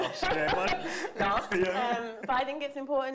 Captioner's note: both laughing